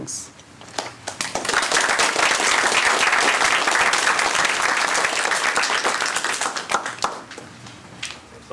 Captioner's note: applause